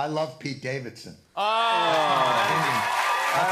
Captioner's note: cheers and applause